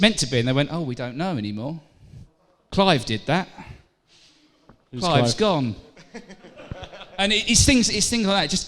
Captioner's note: laughter